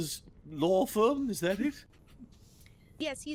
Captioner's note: Cornette chuckles